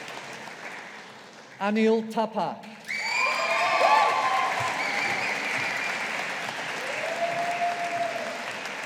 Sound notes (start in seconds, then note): 2.9 audience applauding